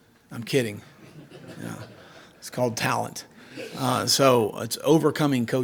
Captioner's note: audience laughs